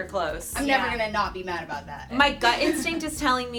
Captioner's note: laughs